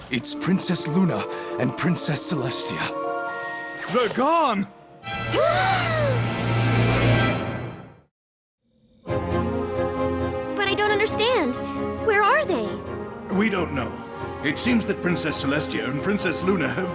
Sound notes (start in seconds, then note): 5.5 horrified gasp